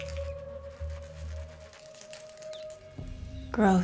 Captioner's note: rat squeaking; soft creaking